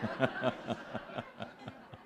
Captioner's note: laughter